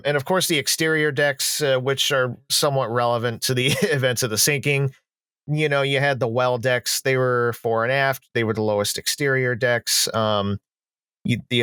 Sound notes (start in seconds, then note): 3.6 laughs